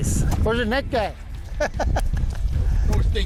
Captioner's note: laughs